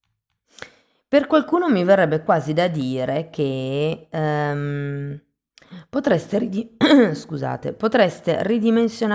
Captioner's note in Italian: schiarire la voce